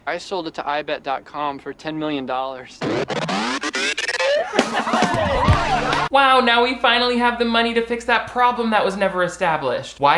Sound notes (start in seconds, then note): 4.2 cheering